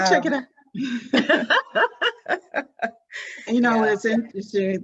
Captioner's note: both laughing